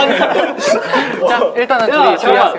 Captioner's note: cracking up; laughing